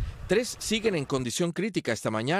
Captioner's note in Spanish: HABLAN EN INGLéS